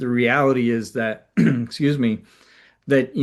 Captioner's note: clears throat